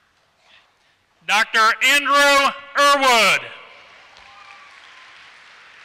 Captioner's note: applause